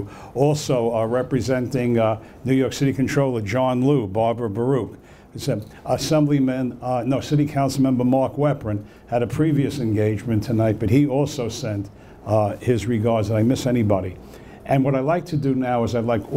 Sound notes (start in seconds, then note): none